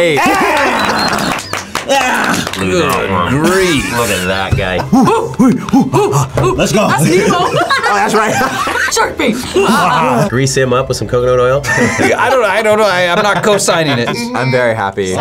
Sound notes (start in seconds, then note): 4.7 both grunting; 8.5 both laugh; 11.6 laughs